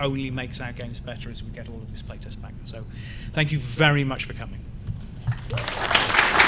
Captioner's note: applause